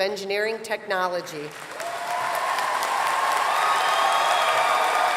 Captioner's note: cheering